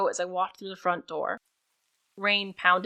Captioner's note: rain